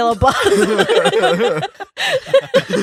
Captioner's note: laughing